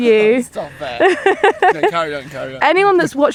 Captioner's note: laughs